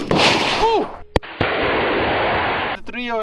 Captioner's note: gun shots